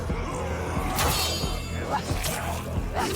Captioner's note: sword clacks; sword thuds